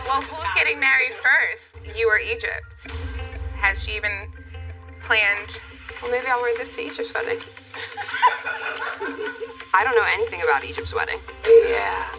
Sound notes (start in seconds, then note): 7.7 laughter